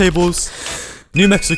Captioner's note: breath